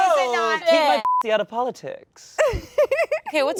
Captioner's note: beeps